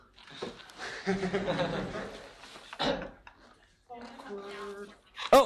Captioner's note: laughter